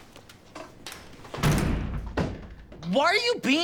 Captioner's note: door slams